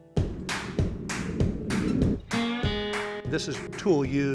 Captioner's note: fire roaring out